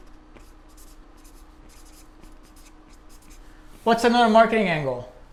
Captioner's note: pen writing